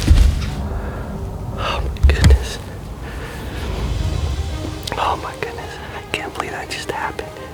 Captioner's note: whispering